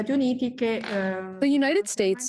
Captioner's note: through translator